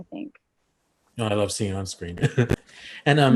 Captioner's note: laughs